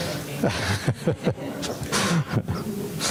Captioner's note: laughs